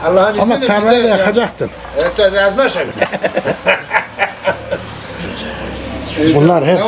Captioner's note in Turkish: kahkaha